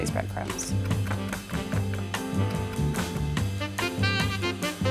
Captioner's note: cutting board thudding